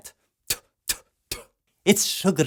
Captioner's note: spit, Spit, Spit